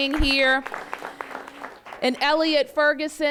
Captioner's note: applause